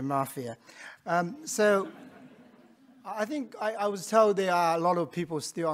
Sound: audience laughing

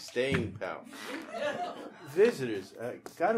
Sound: audience laughing

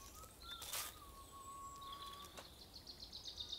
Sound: birds chirping

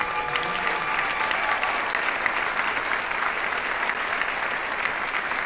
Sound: audience applauding

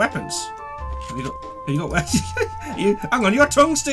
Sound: laughs

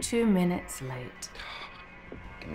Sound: computer voice

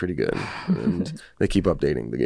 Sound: laughs

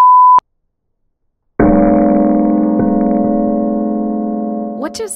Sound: loud gong sound

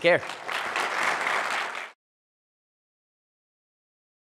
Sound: audience applauds

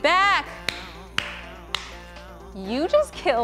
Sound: clapping

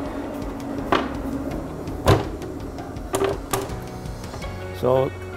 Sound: cutting board sounds

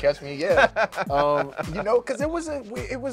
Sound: laughing

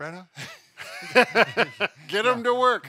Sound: general laughter

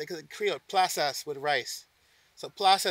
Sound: speaking foreign language

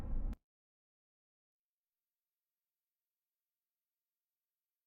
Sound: silence

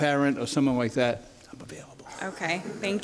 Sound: audience laughter

